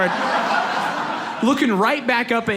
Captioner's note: audience laughs